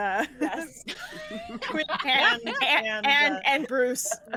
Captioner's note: group laughs